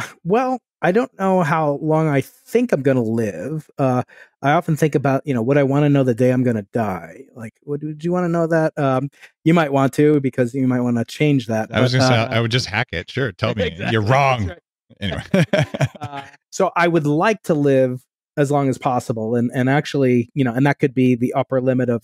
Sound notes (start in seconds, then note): 15.0 laughing